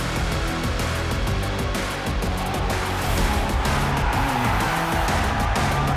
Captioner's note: upbeat electronic music; crowd cheering